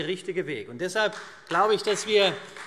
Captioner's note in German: Beifall CDU und Freie Demokraten